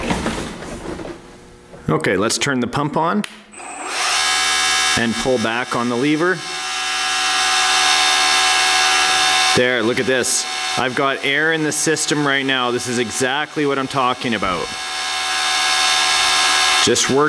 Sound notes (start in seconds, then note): 3.6 mechanical whirring; 6.7 mechanical whirring; 14.8 mechanical whirring